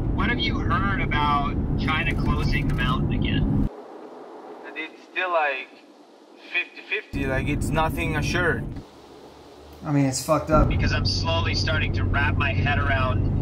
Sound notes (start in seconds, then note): 0.4 on phone